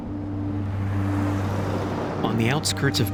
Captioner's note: engine rumbling